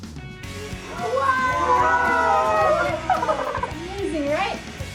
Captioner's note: laughter